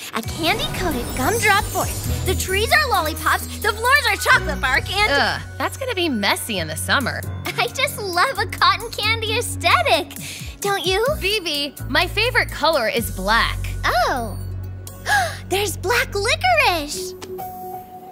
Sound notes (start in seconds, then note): 14.5 gasps